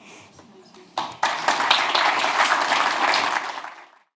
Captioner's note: crowd applauds